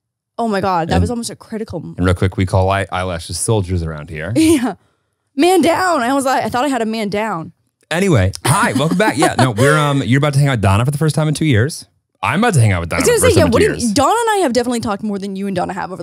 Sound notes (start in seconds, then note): 4.2 laughs; 8.3 laughing